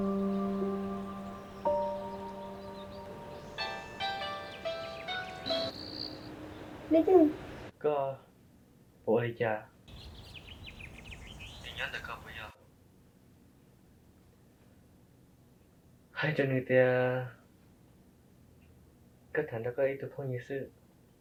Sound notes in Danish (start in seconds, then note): 0.0 musik falmer; 3.4 telefonen ringer